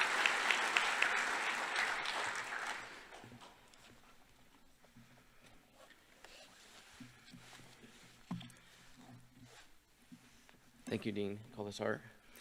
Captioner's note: applause